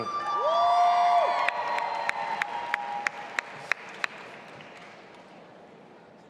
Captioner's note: audience applauding and cheering